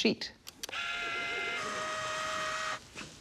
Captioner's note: whirring